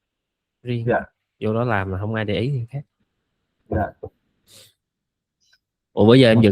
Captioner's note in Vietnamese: khịt mũi